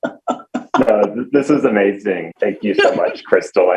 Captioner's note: laughing